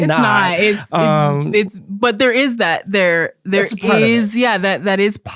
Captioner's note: stammering